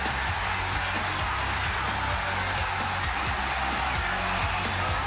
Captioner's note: crowd cheering